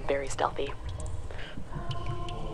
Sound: Glee Club begins chanting

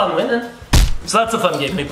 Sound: thump

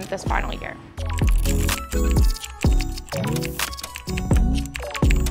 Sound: keyboard clicking

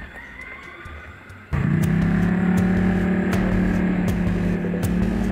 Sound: motor whirring

